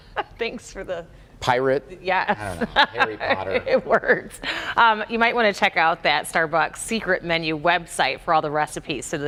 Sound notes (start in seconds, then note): 4.2 laughter